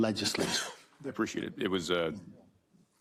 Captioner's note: cough